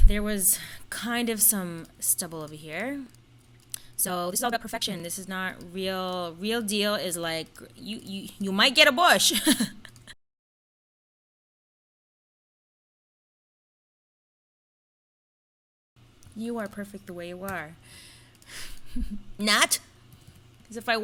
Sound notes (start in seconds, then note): 9.4 laughs